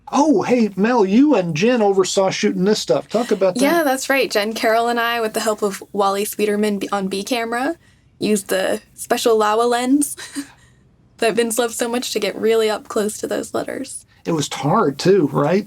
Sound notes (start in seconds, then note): 10.1 chuckles